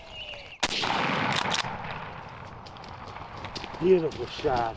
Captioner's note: riffle fires